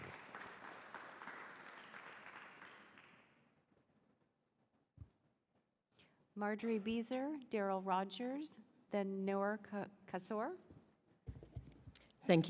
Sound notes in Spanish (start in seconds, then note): 2.9 Aplausos